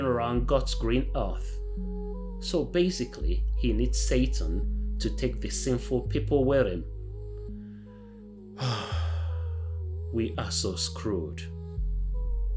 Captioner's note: sigh